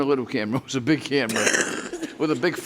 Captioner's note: woman laughs